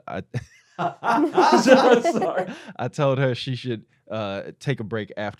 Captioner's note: laughter